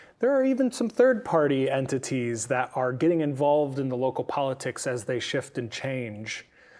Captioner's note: none